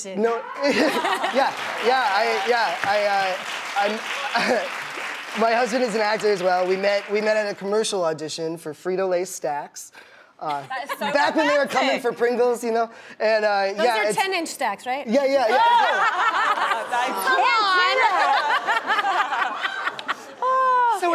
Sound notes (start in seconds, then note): 1.4 clapping; 15.5 laughing